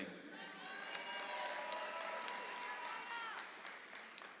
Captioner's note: audience applauds